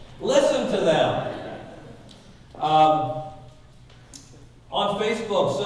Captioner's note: audience laughing